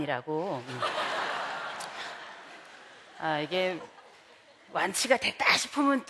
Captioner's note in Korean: 웃음